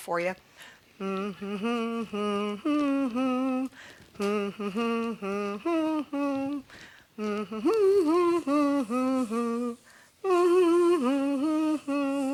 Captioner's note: humming "Happy Birthday"